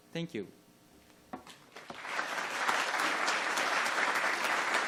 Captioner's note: applause